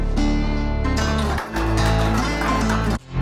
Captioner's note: applause